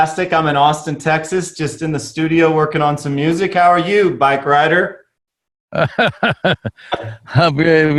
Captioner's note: Sadhguru laughs